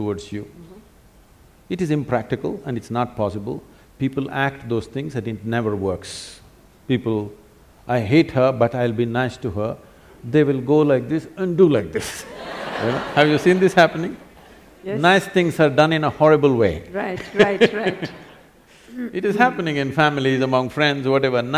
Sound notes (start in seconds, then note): 12.2 laughter; 17.0 laughs